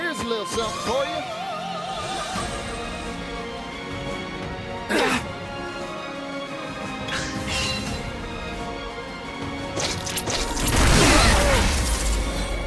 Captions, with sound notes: Here's a little something for ya! (characters grunting) (lightning crashing)